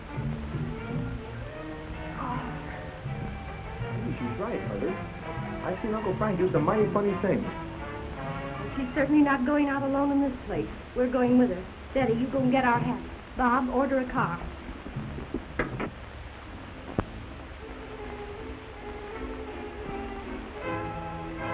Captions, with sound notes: I go. - I think she's right, Mother. I've seen Uncle Frank do some mighty funny things. - She's certainly not going out alone in this place. We're going with her. Betty, you go and get our hats. Bob, order a car. (door closes) (suspenseful orchestral music)